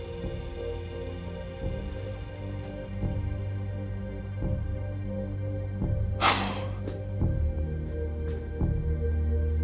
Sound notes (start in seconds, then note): 6.2 Chuck sighs